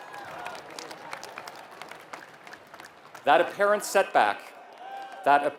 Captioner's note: applause